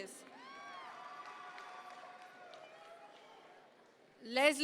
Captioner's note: audience members cheer